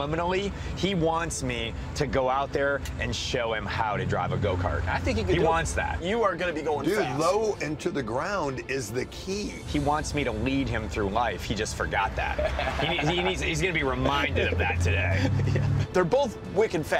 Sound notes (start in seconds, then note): 12.2 laughs